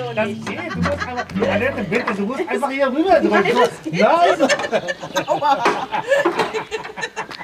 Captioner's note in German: Lachend